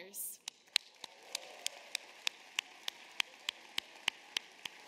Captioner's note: applause